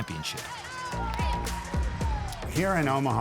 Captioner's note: people cheering